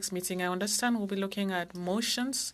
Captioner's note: speaking French